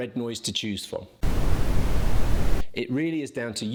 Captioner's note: static blaring